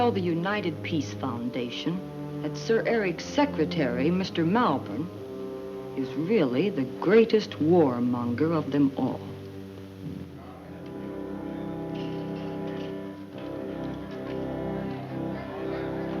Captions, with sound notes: to tell the United Peacn that Sir Eric's secretas really the greatest war. (chattering)